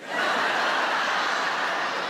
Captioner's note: audience laughs